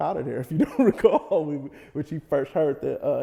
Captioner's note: laughs